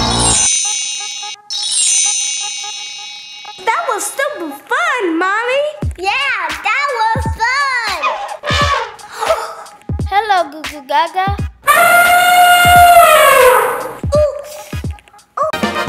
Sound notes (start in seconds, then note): 0.0 magic chimes; 8.0 elephant trumpeting; 9.3 Goo Goo Gaga gasps; 11.6 elephant trumpeting; 15.4 upbeat polka music